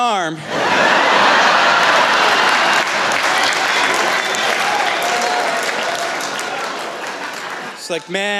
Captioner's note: laughter